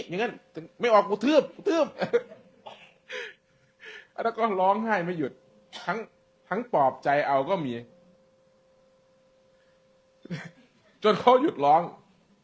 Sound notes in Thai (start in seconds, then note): 1.5 เสียงหัวเราะ; 3.1 เสียงหายใจอ้าปากค้าง